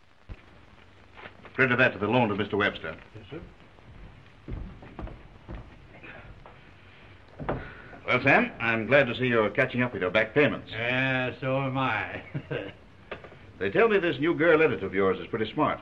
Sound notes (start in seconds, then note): 11.9 laughs